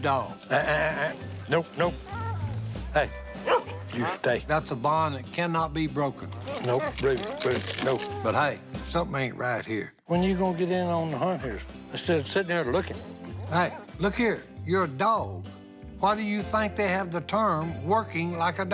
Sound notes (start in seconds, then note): 3.3 dog barking; 6.3 dog whining